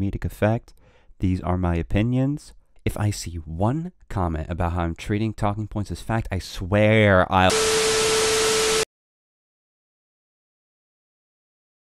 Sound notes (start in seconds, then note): 7.5 distorted static